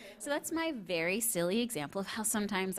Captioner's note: none